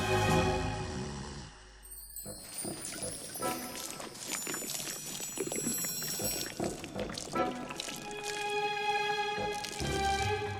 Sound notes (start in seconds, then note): 0.8 Maurice snoring; 2.2 fuel trickling; 2.6 dramatic music continues